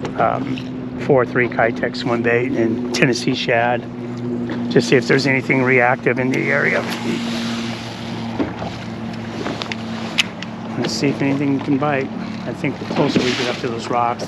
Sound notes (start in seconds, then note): 6.3 reel spinning; 6.7 rod whipping